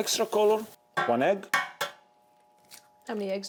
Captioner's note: egg tapping